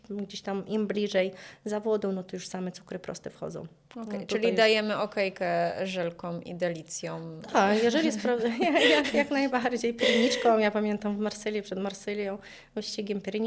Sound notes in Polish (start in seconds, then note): 7.8 śmiech